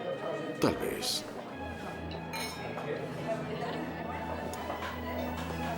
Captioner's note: clink